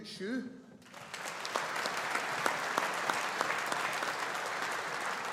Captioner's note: audience applauding